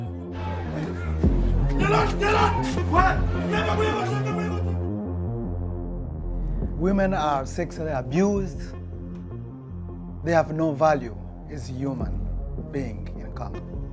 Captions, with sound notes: (man shouting in foreign language) Women are sexually abused, they have no value, isn't human being in Congo.